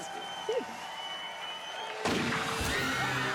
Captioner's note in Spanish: griterío; gritos